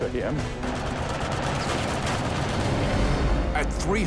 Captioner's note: gunfire